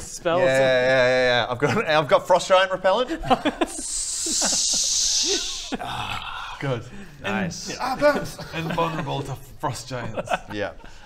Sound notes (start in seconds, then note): 3.6 tschhhhhhhhhhhhhhhhh